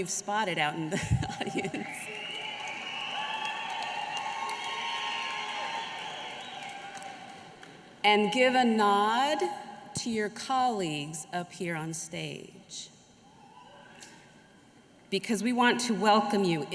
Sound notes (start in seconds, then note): 6.1 applause; 8.1 cheers